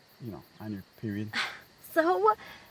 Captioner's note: Janet scoffs